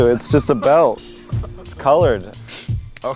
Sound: laugh

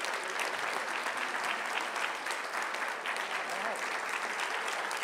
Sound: audience applauding continues

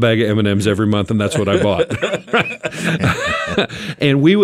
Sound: group laughing

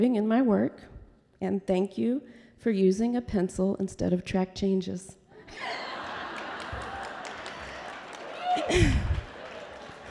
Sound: laughter

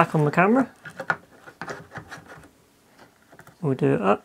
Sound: scraping noises

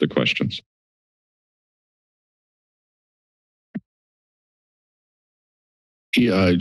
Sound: silence

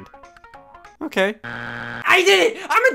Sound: buzzer beeps

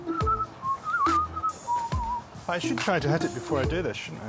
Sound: whistling

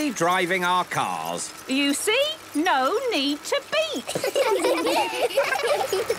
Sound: laughter

